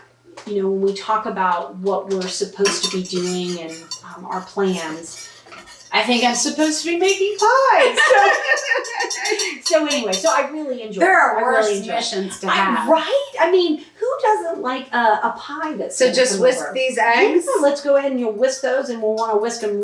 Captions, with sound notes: you know when we talk about what we're supposed to be doing and our plans i think I'm supposed to be making pies! (laughing) So anyway so I really enjoy . . . there are worse missions to have . . . right? I mean who doesn't like a pie that's so just whisk these eggs let's go ahead and you'll whisk those and we'll want to whisk them